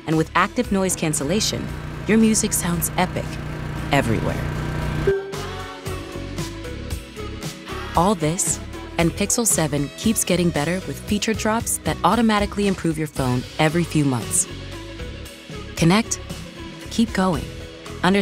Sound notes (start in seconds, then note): 5.1 Pixel Buds chime; 6.0 upbeat music